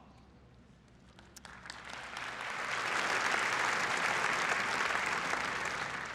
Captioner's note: applause